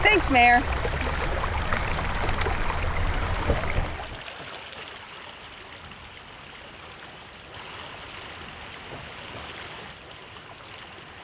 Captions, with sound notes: Thanks, Mayor. [water running]